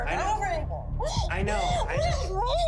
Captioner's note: sobbing